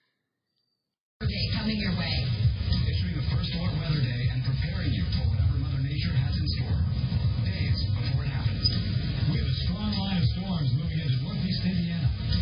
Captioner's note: "21Alive News at 4" plays in background